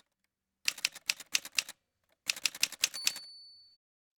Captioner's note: typewriter sounds